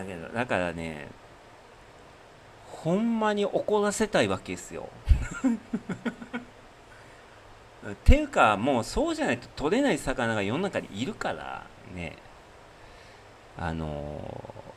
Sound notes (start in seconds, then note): 5.0 laughter